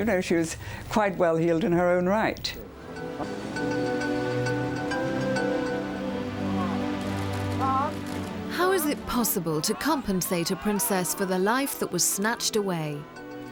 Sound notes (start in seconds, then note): 6.9 cameras clicking